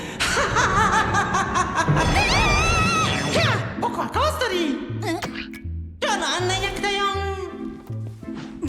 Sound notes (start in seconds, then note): 2.1 shrieks; 5.2 splat!